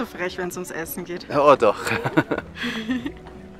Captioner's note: laughter